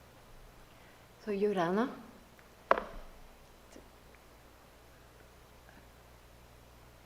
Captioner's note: speaks in foreign language